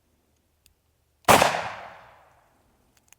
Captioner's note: gun shooting